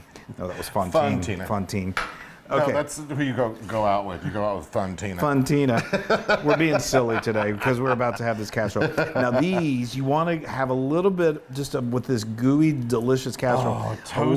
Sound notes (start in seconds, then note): 5.8 laugh